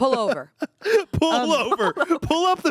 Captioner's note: laughs